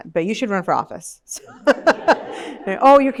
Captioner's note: laughter